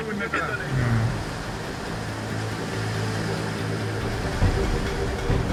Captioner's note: water whooshing; tractor droning; intense music